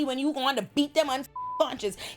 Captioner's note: beep